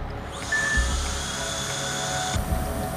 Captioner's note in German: Surren des Bohrers